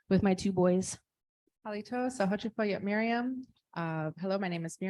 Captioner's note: speaking Native language